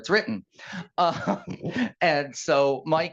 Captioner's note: laughing